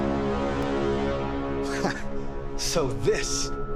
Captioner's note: chuckles